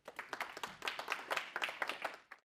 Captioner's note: applause